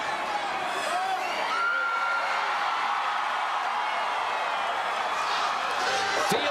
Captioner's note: applause